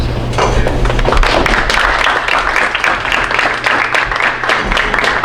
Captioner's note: audience applauding